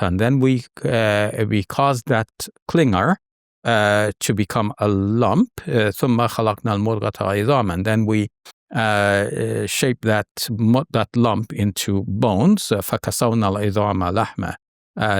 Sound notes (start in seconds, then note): 6.0 speaks verse in Arabic; 12.9 speaks verse in Arabic